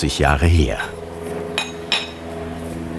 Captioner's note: engine roaring